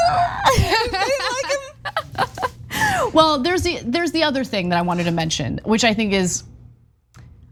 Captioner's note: laugh